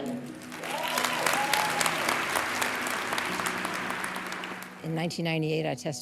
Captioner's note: cheers and applause